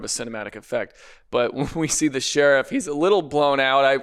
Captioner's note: chuckles